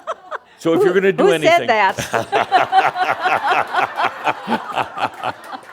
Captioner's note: some chuckles; chuckles; more laughter